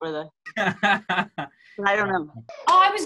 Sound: laughter

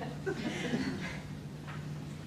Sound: laughter

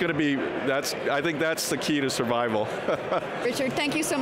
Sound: laughing

